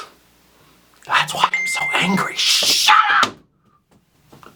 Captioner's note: whispers; phone makes noise